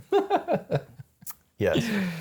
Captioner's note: laughing